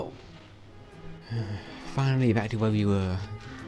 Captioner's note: sighs